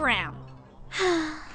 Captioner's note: sigh